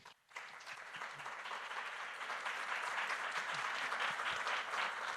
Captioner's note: audience applauding